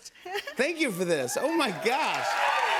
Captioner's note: cheers and applause